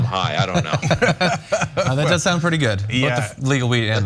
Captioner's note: laugh